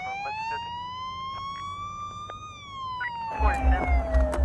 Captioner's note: siren wailing; police radio chattering